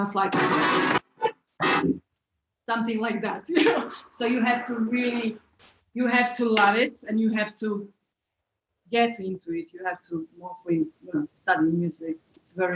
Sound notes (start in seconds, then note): 0.2 bellow striking; 3.4 laughs